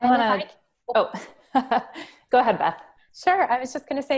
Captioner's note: laughs